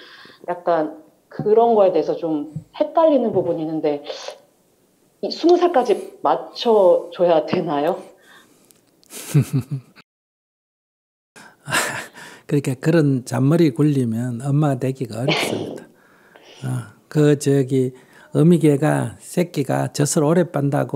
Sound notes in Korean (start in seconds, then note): 9.1 스님 웃음; 15.2 질문자 웃음